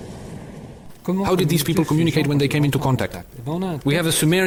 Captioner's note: French spoken audio